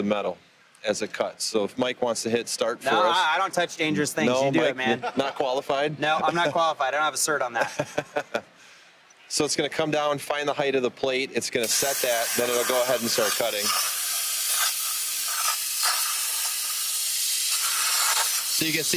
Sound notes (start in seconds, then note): 11.6 plasma cutter zapping loudly